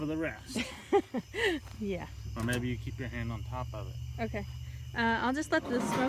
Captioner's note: laughing